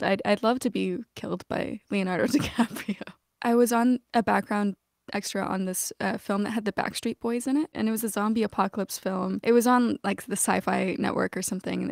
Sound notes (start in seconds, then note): 2.3 laughter